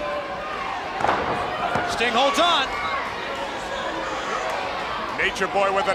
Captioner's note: wrestlers thudding on ring